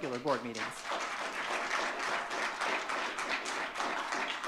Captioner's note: audience clapping